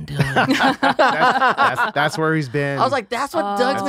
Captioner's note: they laugh